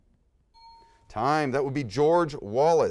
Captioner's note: bell ding